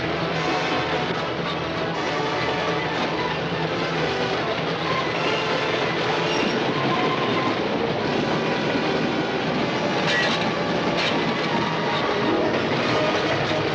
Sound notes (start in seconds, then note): 4.8 train rumbling; 10.0 clicking